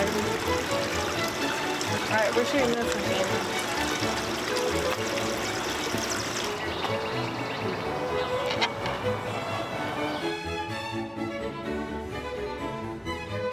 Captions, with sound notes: (majestic orchestral music) All right. We're turning this within. (majestic orchestral music) (birds chirping) (majestic orchestral music)